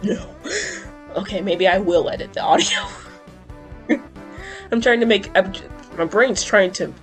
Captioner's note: wheeze